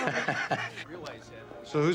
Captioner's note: Nash laughing